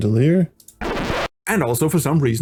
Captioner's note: record scratch